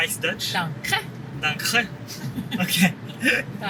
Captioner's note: pronounced in Swiss German